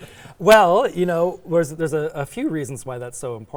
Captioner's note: laughing